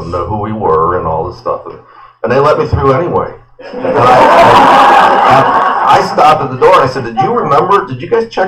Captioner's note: laughter